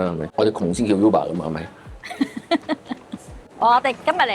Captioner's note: laughs